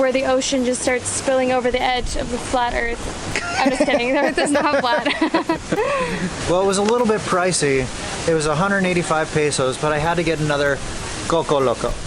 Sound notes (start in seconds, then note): 3.3 laughter